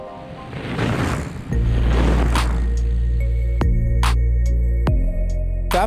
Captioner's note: bikes whirring; funky music